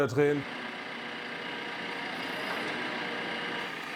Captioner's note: the vehicle hums and whirs